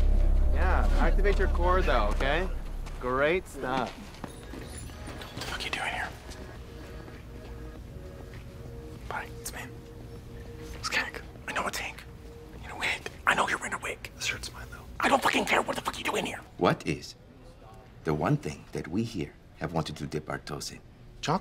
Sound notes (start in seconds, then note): 4.2 this conversation is all in harsh whispers